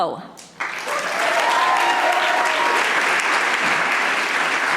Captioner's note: audience applauding